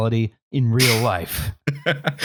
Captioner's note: sniffs; chuckles